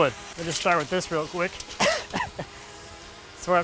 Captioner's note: laughs